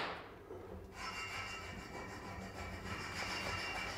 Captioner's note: rattling in the background